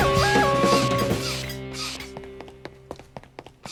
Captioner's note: air hisses as it's pumped; patter of running feet